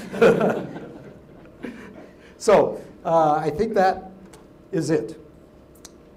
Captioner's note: laugh